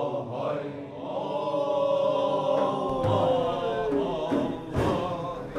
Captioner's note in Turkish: Hep bir ağızdan